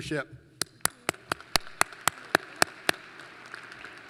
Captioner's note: applause